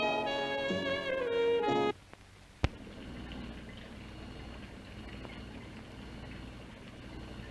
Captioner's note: machines whirring